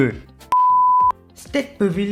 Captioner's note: beep